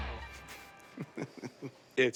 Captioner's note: chuckles